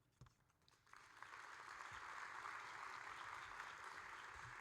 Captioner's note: audience applauding